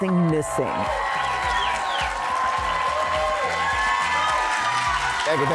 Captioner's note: cheers and applause